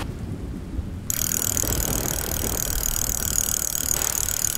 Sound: alarm ringing

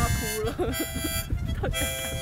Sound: wry laugh

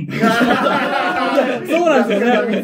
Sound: laughing

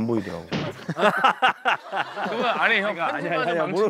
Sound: laughing

